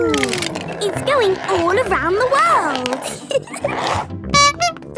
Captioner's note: giggling; honking